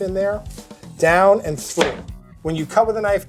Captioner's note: knife clatters